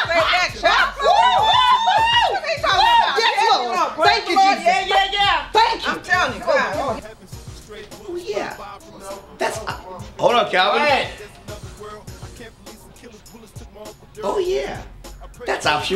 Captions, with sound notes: - Amen girl, I'll say that child. (screaming) What's he talking about. - Yes Lord, thank you Jesus. - Thank you, I'm telling you oh God. - Oh yeah, that's, hold up Calvin. Oh yeah, that's option one, and here's option two,